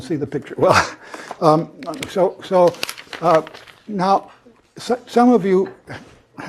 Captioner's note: laugh